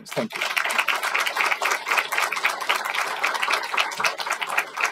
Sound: applause

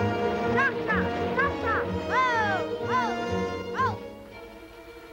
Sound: speaking in foreign language

